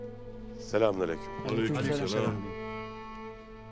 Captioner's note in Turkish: Hep bir ağızdan